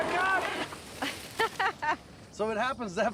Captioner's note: laughing